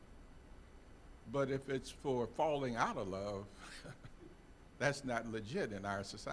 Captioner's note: chuckling